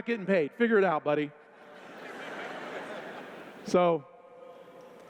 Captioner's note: laughter